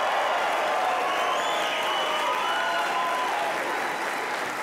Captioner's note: cheers and applause